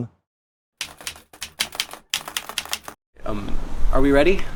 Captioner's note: keyboard keys clicking